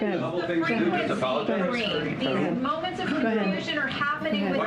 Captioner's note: reporters chattering